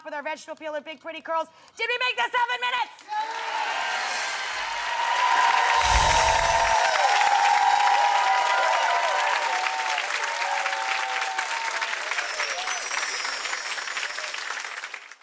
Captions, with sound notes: with our vegetable peeler. Big pretty curls. Did we make that seven minutes? Yes. (cheering)